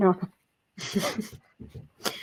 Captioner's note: chuckle